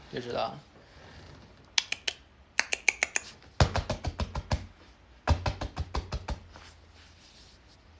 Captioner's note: dog summoning noises